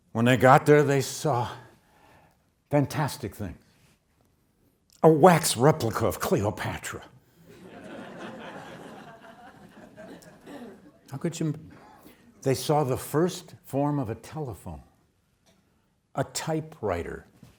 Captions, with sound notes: When they got there, they saw fantastic things. A wax replica of Cleopatra. (audience laughs) They saw the first form of a telephone, a typewriter.